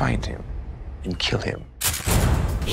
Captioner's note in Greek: ήχος όπλου